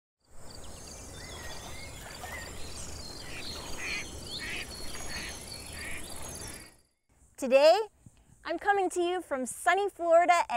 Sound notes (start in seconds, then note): 1.1 birds chirping, ducks quacking